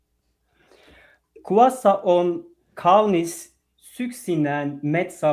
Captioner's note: speaking finnish